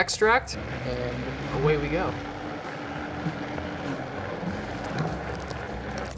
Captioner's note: machine whirring